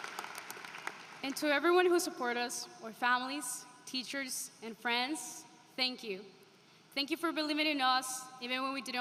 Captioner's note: applause